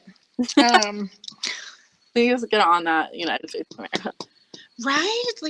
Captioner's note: laughing